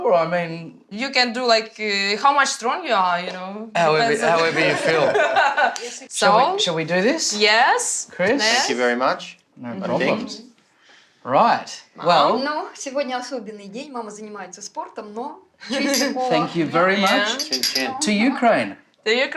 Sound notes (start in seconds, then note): 4.1 laughs; 13.4 speaks ukrainian